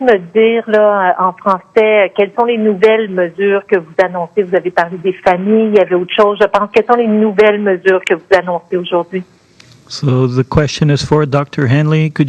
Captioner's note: speaking French